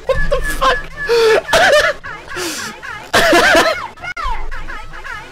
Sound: simpleLaughs

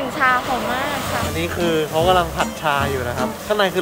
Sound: tea stirring machine

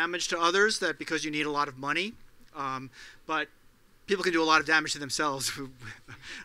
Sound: laugh

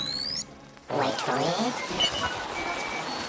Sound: static

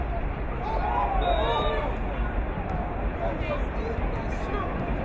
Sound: whistle blowing

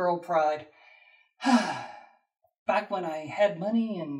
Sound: sigh

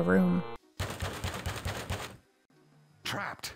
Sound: banging on door

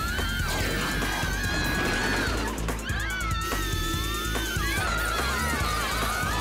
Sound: screaming

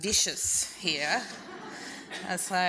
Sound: audience laughs

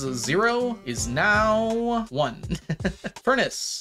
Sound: laughs

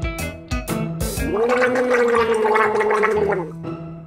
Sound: gargling

